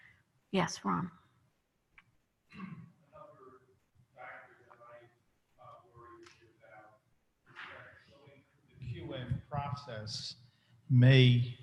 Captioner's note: off mic